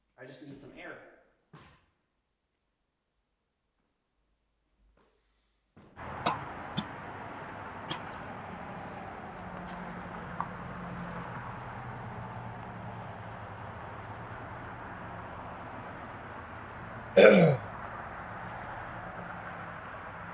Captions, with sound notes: I just need some air. (traffic humming) (Jacob coughing) (Jacob coughs)